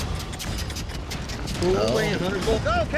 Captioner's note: fast hoofbeats